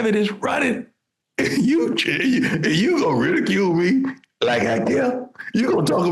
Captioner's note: laughing